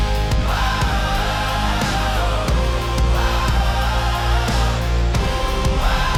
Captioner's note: thunder crash